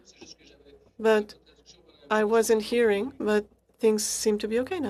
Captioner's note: speaking French